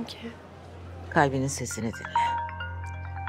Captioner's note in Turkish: Telefon çalıyor